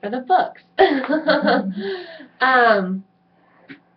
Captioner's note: laughs